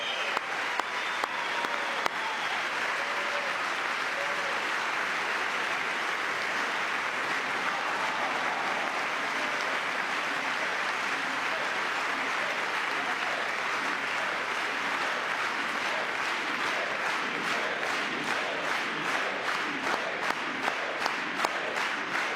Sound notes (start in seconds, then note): 2.1 cheering; 3.7 applause; 16.9 applause